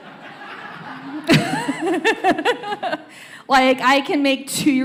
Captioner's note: laughter continues